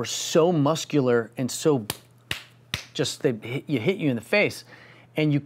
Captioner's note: slapping fist